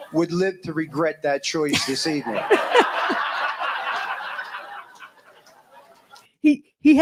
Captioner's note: audience laughs and applauds